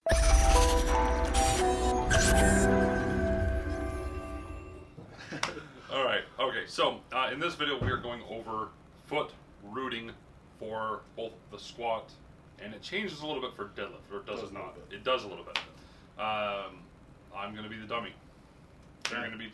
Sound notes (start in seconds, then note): 0.0 tinkling music; 5.0 laughing